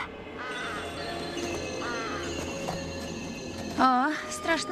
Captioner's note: birds squawking